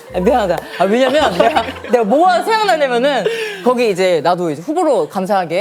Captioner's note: hahaha